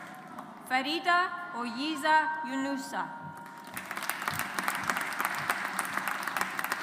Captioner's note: audience applauds